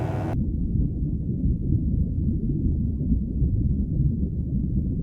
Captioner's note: electric buzzing; water gurgling